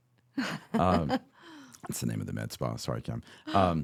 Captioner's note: laughing